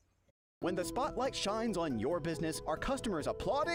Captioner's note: voiceover